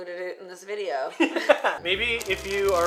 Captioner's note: laughter